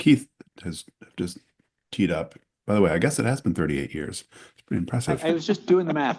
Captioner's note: laughter